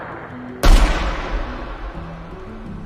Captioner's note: single distant gunshot